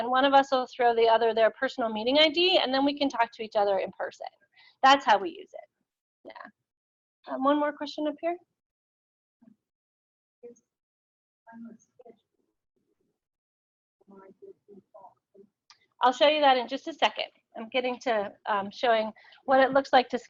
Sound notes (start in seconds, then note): 12.9 audio drops; 15.4 audio drops